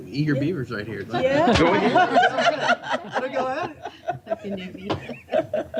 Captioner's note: laughter